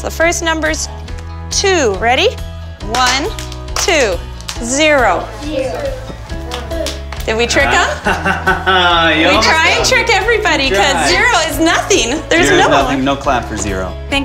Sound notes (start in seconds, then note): 10.0 laughs